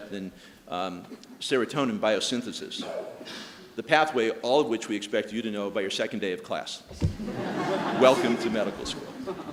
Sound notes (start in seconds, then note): 7.1 audience laughing